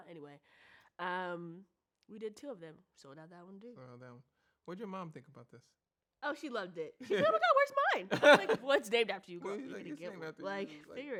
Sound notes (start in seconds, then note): 8.1 laughs